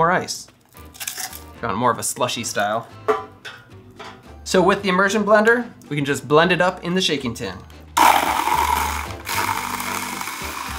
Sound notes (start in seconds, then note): 8.0 sound of immersion blender